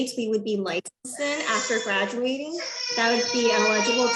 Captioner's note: baby crying